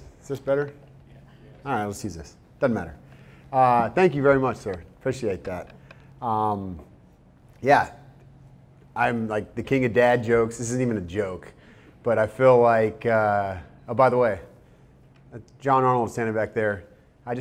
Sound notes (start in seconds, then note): none